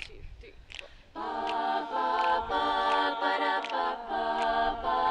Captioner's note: group humming